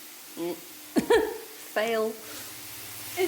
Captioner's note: laughing